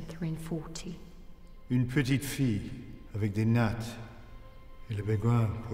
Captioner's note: speaking in French